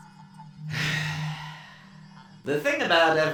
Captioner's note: deep sigh